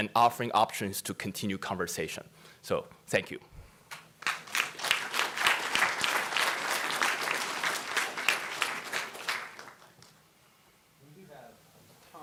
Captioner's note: audience applause